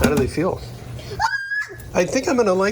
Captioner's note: screams